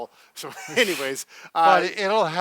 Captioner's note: chuckles